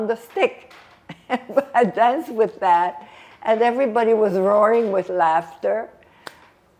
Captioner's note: laughing